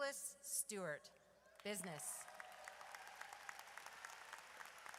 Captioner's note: audience cheers